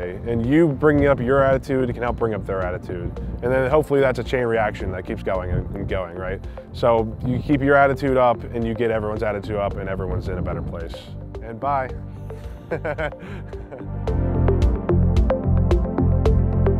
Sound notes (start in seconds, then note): 12.5 laughs; 14.0 upbeat music